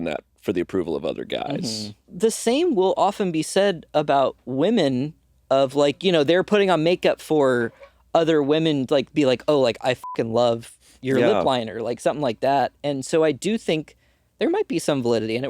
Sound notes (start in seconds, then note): 9.6 beeping